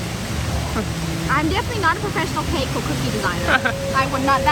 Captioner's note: laughs